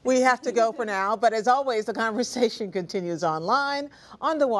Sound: laughter

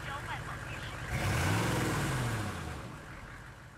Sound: engine revs

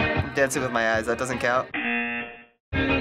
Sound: buzzer

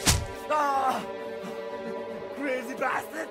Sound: henchman groaning

